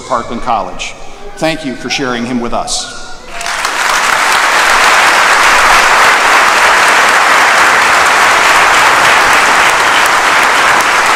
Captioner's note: applause